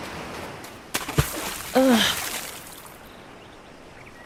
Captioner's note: water splashes